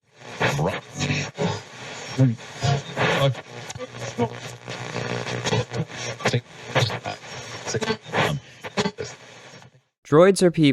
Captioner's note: radio static